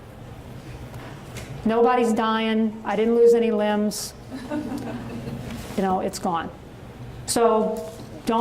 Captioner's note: audience chuckles